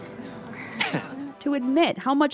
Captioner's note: laughs